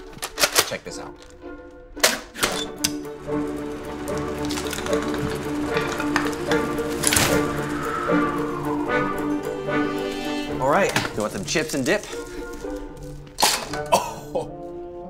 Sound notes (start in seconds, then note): 0.1 gun cocking; 4.4 bricks banging; 7.1 umbrella cracking; 8.4 air wooshing; 13.5 chips crashing